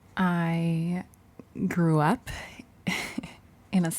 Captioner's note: chuckles